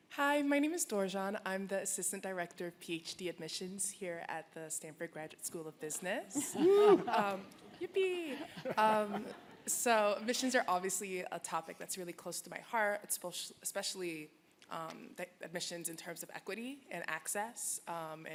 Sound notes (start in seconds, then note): 8.2 laughter